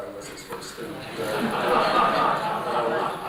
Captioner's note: laughter